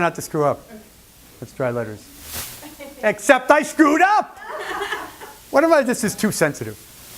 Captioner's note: laughter